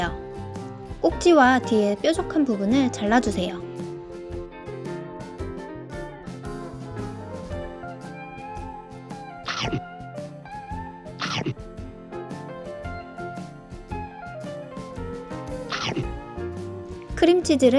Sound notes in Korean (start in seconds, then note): 9.2 냠냠